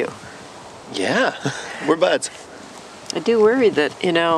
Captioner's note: chuckles